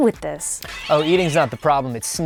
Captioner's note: off screen crash